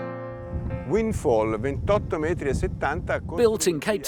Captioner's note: speaking in foreign language